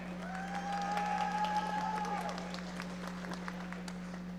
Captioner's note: audience applauding